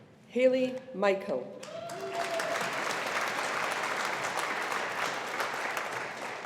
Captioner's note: audience applauding